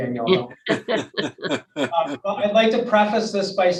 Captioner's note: group laughs